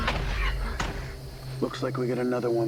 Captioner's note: dramatic music; insects chirping